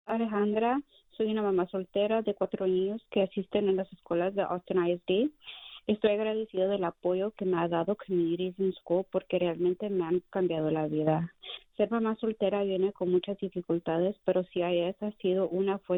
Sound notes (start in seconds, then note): 5.2 speaking spanish